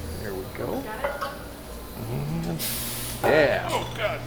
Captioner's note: humming